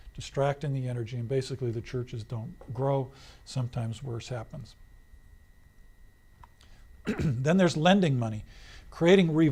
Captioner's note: clears throat